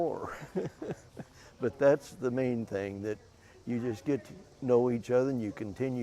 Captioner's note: chuckle